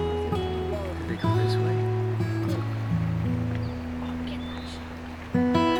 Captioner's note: group chattering